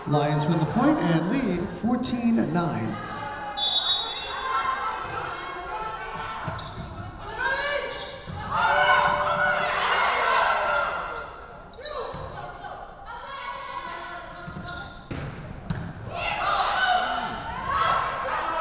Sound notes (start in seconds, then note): 3.5 whistle blowing